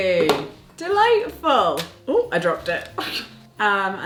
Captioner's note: scoffing